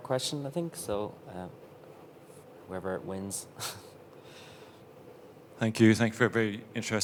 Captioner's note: chuckles